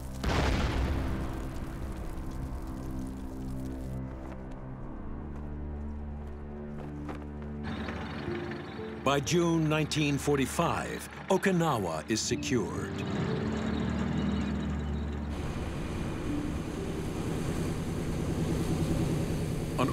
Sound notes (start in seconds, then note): 0.0 fire crackling; 0.2 cannon shots exploding; 4.3 flag flapping in wind; 7.7 tanks rumbling; 15.4 airplane engines rumbling